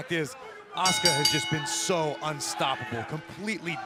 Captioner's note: bell ringing